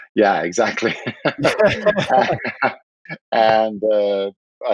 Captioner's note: laughing